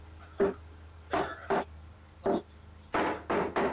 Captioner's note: hammer bangs